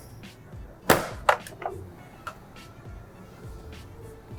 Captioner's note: sealer door opens